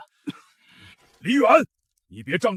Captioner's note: cough